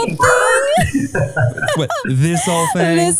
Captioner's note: laughing